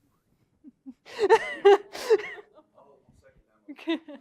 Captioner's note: laughs